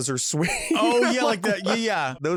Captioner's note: laughs